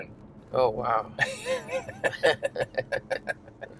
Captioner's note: laughter